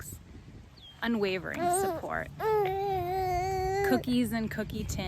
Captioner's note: cooing